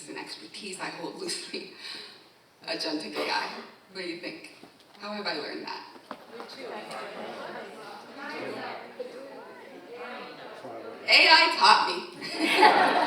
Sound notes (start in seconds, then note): 5.9 audience chatting